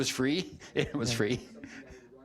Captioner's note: chuckling